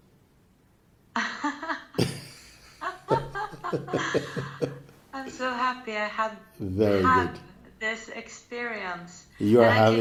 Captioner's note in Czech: smích